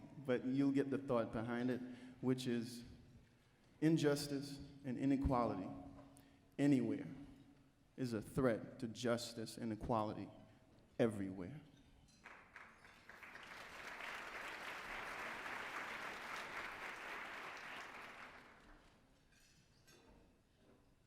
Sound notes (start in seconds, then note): 12.2 applause